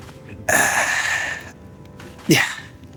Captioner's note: grunting